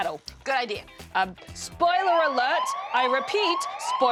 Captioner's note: sirens